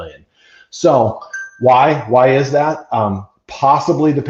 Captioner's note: polyphonic dinging